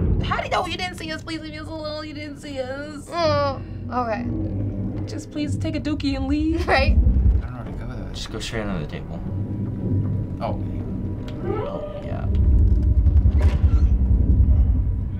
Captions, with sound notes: - How did he know? He didn't see us leaving. He didn't see us! - (groaning) Okay. - Just please take a dookie and leave. - Right? - Oh my gosh. - Just go straight under the table. - Oh. - (chef growling) (door shutting)